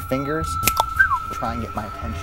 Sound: cluck-snap-whistle!

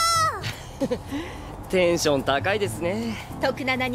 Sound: laughs

